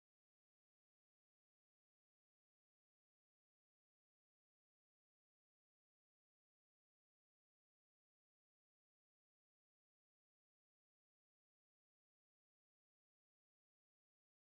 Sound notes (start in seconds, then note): none